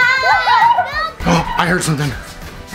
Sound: shouting

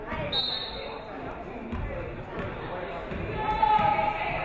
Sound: referee whistles

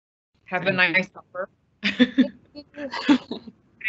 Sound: laughs

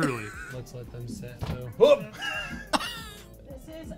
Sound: laughs

